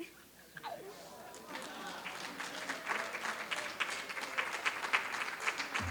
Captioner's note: applause